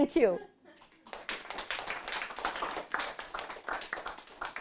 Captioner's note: audience applauds